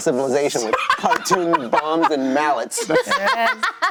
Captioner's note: laughing